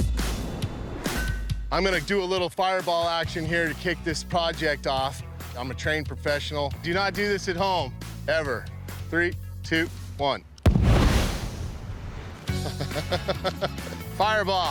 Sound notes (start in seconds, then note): 10.6 explosion; 12.6 laughs